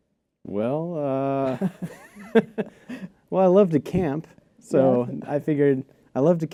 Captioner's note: laughter